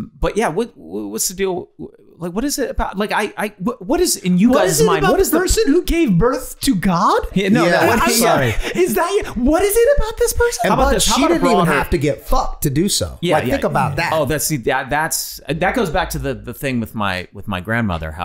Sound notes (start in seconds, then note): 3.0 Glenn stuttering